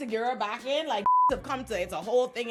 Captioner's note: beep